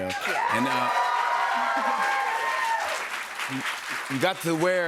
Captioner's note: cheers and applause